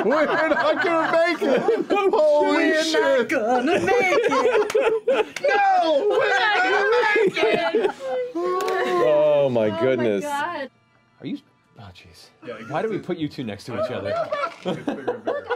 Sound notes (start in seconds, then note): 8.0 group laughter